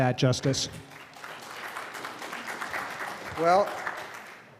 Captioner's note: audience clapping